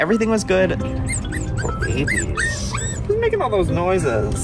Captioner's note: dog Whining